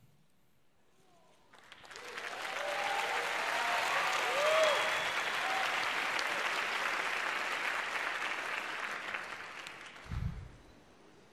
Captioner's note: applause